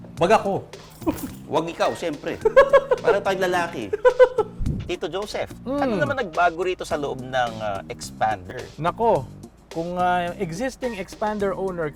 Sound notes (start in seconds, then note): 2.1 laughs